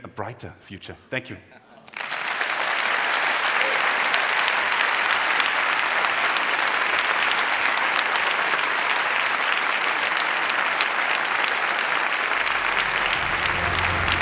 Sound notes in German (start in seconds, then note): 1.8 Applaus